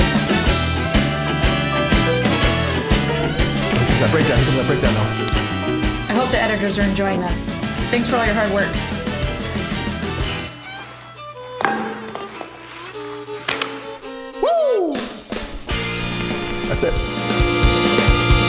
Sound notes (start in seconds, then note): 11.5 bat hits the floor; 12.7 kiss